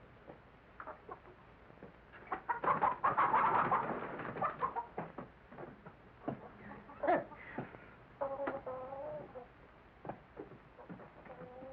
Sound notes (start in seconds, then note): 2.3 chickens cluck; 6.9 scoffs